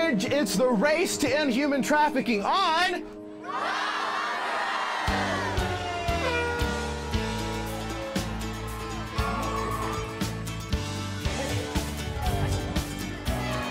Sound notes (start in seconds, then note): 3.2 crowd shouts; 5.6 air horn blowing